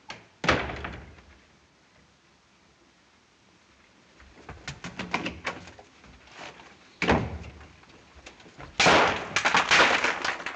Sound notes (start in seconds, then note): 7.0 door shuts; 8.8 explodes